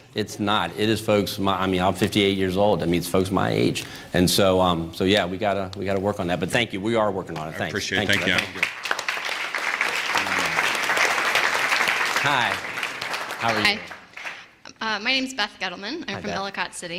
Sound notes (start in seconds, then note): 7.9 applause